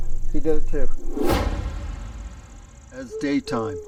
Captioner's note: scene swooshing